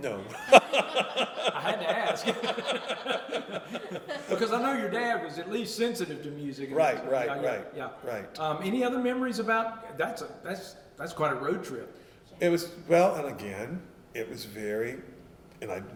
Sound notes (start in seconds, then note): 3.6 laughter